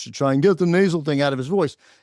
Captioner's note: mimics brother